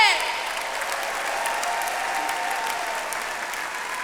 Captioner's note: audience applauds